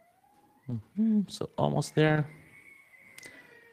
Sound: hums

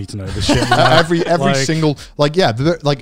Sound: everyone laughs

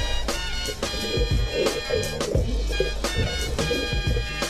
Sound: bubbling

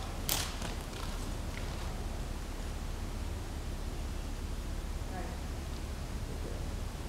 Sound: harder bump

